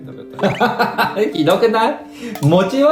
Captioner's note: laughs